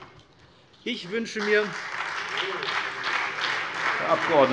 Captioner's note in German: Vereinzelter Beifall CDU und BÜNDNIS 90/DIE GRÜNEN, Beifall SPD